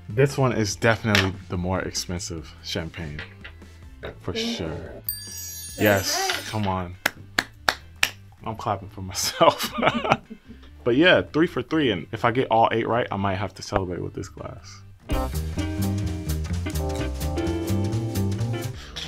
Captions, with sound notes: this one is definitely the more expensive champagne for sure. (text tinkling) - That's right. - Yes. Come on. (hands clapping) I'm clapping for myself. (laughs) But yeah, three for three. And if I get all eight right, I might have to celebrate with this glass. (upbeat jazz music)